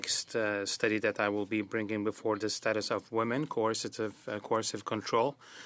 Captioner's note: speaking French